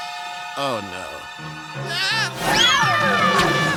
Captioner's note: screaming